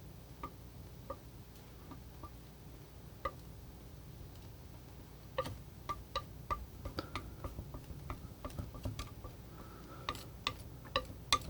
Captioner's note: tapping